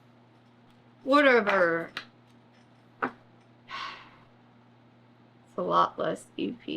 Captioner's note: sighs